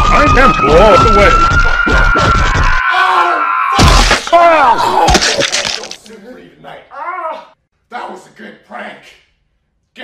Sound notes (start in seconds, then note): 1.7 Franks screaming in agony and euphoria; 3.8 blood splashes, Michael vomits